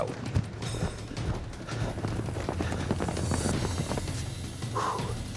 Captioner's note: hoofbeats approaching; grunting